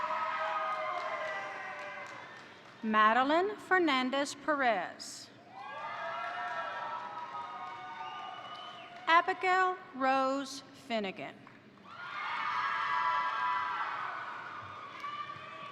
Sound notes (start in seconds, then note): 0.0 crowd cheering; 0.0 crowd applauding; 5.5 crowd cheering; 5.6 crowd applauding; 11.8 crowd cheering; 11.9 crowd applauding